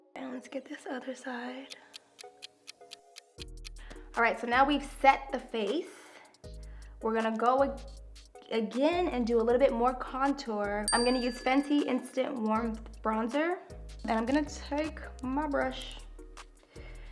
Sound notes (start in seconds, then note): 1.6 clock ticks